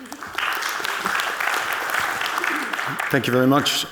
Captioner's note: audience clapping